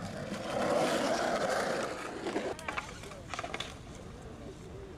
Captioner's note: wheels scrape on gravel